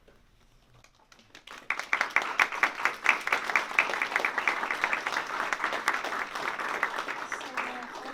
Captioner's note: applause